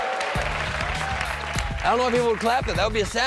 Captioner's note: cheers and applause